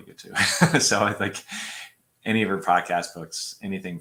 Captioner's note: laughter